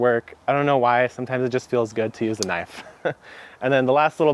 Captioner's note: chuckles